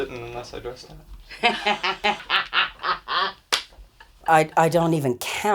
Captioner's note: laughing